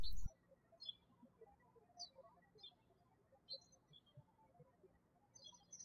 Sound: birds chirping

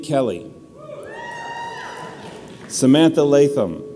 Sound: audience cheers

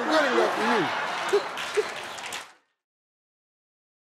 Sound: laughter

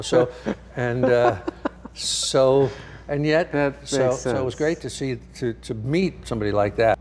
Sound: laughing

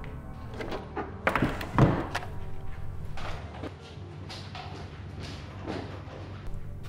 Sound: light clattering; draw thudding

